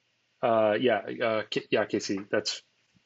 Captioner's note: hums